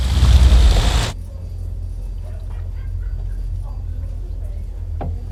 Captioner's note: bar chatter; low rumbling